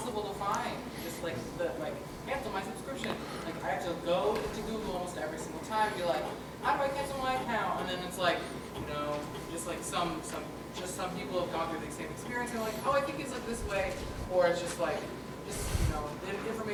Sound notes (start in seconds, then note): 3.3 speaking off microphone